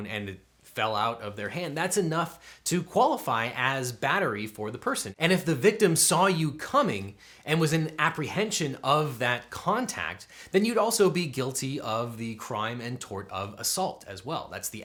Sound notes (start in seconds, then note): none